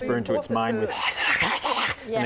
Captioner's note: speaks in tongues